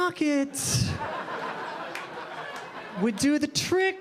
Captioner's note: audience laughing